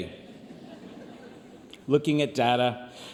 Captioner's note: audience laughs